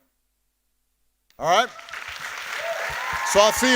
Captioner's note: audience applauding